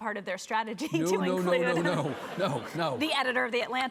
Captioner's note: chuckles